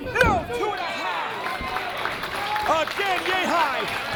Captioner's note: applause